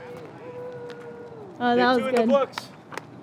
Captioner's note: group cheering